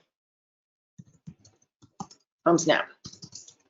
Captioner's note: keyboard typing